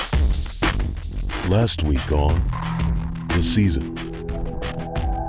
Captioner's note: upbeat music; voiceover